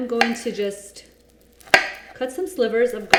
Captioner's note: cutting garlic